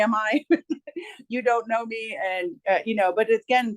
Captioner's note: chuckles